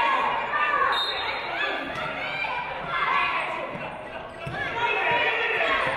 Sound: referee blows whistle

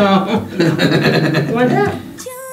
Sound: Rocky laughing; laughs

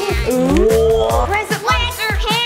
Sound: gasp

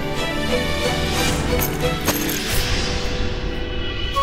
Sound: bag thuds

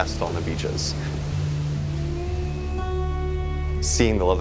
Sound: waves crashing; tranquil music

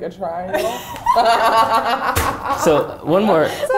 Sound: all laughing

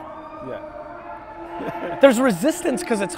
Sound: laughing

